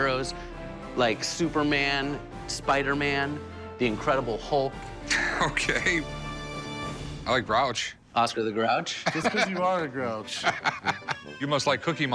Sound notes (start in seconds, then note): 5.1 Rick, laughing